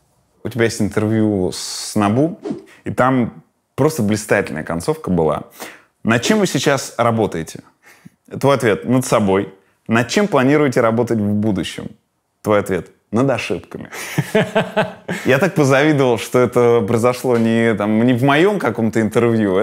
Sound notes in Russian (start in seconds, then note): 14.0 Костомаров громко смеётся